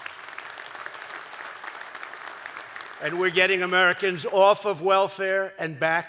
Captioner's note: applause